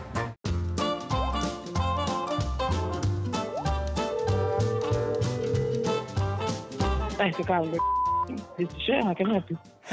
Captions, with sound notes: (cheerful music) (phone rings) - Thanks for calling (beeping). This is Shel, how can I help you?